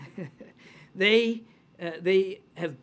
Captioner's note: laughs